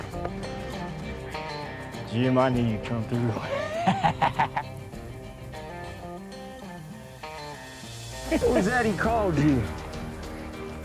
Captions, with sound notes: JIM, I KNEW YOU'D COME THROUGH. [LAUGHS] WHAT WAS THAT HE CALLED YOU?